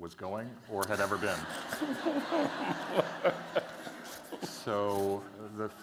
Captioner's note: laughter